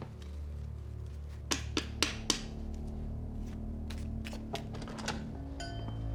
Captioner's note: tapping, shuffling sound; door opens, doorbell clangs